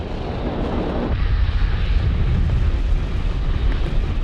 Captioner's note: volcano expelling fumes